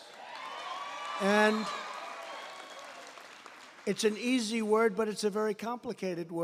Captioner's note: applause